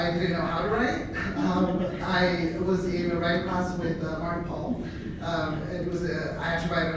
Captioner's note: laughter